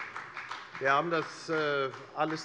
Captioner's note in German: Beifall bei der FDP